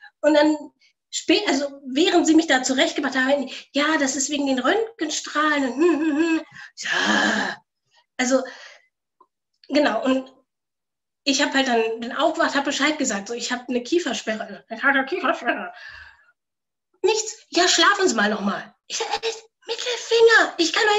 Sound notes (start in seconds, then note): 8.1 frustrated exhalation; 14.3 speaks like a person with lock jaw